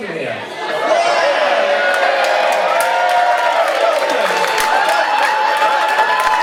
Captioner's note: crowd cheers